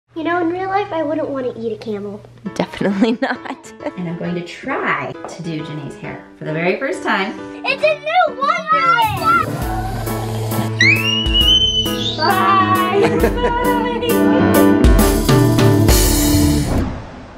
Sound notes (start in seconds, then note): 9.9 upbeat music; 10.5 screams; 14.2 upbeat music